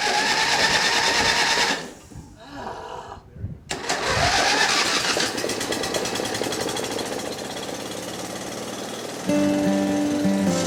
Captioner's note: machine sounds